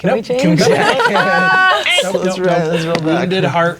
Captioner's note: all talking and laughing